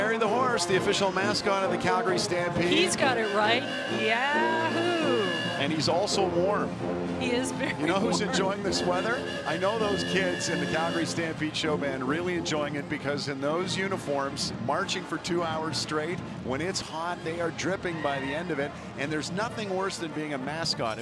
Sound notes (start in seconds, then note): 3.6 horn blowing